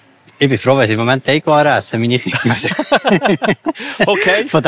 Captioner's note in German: rire